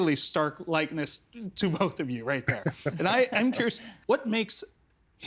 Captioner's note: laughing